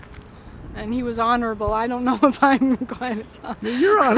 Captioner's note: laughing